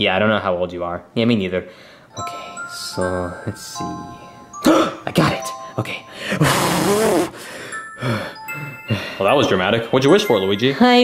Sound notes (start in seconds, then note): 6.1 gasps; 6.4 blowing air, panting